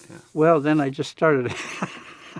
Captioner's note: laughs